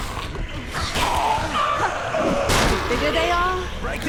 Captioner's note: zombies growling